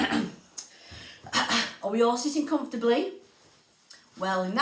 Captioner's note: clearing throat